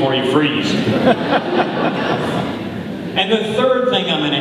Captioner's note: audience laughing